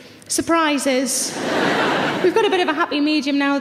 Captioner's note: audience laughs